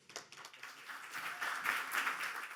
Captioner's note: applauding